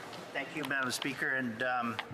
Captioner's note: speaking French